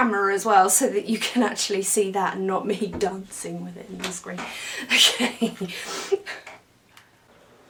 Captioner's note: laughs